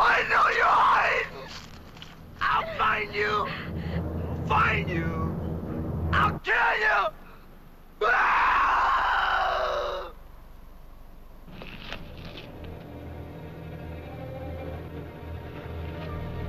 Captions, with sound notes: -Judy, Judy, Judy. [SCREAMS]